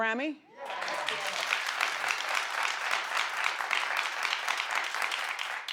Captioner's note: audience cheering and clapping